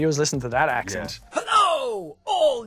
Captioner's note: gruff and exaggerated